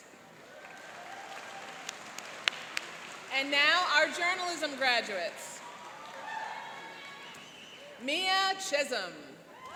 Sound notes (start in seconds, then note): 0.3 applauding; 5.4 cheering